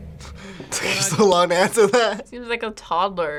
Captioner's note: laughs